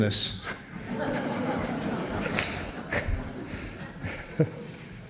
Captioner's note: laughter from the audience